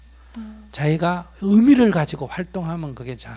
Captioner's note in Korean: none